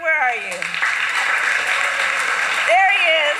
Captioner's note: applause